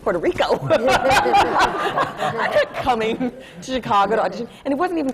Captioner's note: laughter